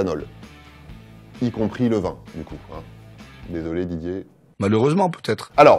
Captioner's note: recording plays